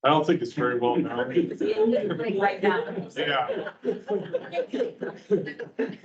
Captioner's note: members chattering and laughing